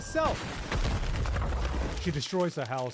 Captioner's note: crash